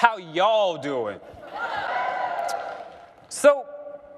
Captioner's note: cheering